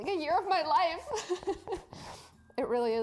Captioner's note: imitates crying